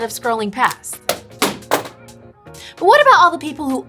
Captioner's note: calculator pounds